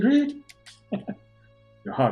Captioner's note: chuckles